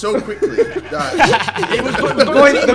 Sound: everyone laughing

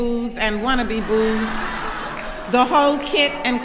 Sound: laughter

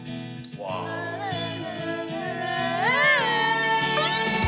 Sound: humming

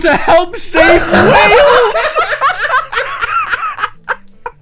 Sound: all laughs

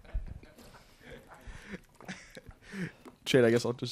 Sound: onlookers laughing

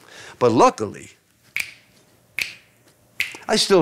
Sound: snapping

